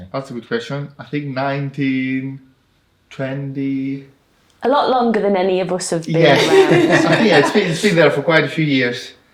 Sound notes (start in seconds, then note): 6.3 laughing